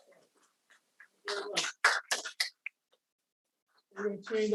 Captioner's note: audience applauding